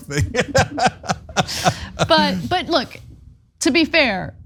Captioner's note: laugh